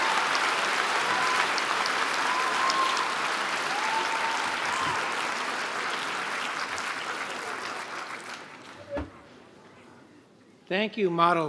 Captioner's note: applause